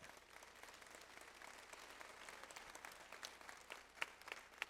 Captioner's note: audience applauds